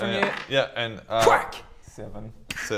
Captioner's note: thwack!